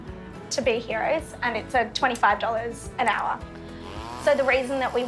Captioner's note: weed eater whines